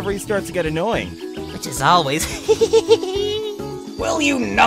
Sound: whispering

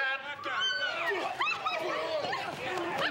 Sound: people grunting, screaming

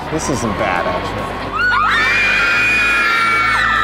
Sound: screaming

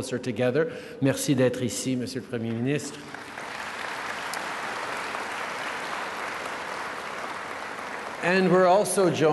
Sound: applause

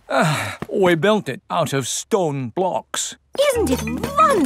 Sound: sighs

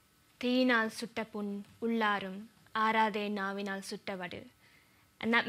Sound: speaks tamil

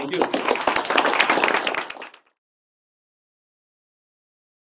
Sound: audience applauds

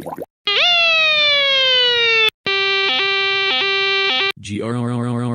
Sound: random cartoon sounds; siren

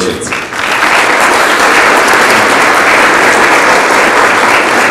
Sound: audience applauds

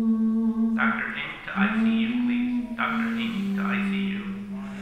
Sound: hospital staff chatting

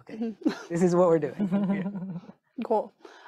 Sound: group chuckling

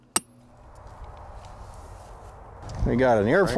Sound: wind blowing

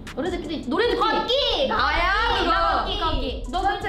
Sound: speaks in Korean

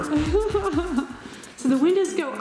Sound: laughs

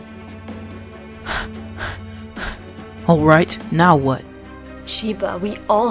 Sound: panting

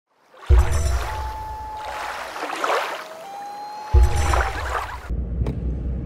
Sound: rushing water, loon calling

